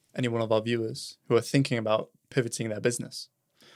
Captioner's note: none